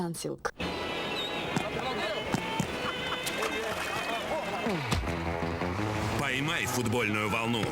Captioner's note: energetic music; splash